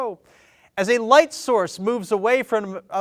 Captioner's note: none